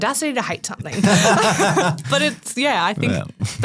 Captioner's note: group laughing